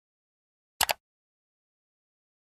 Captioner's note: mouse click sound